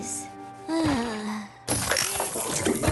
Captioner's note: groan; clattering